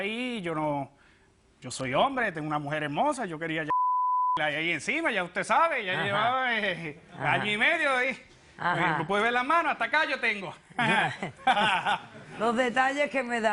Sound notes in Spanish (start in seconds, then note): 3.7 Bip; 8.1 Risas